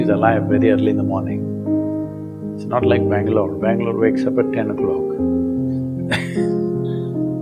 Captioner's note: laughs